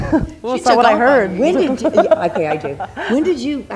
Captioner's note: laughing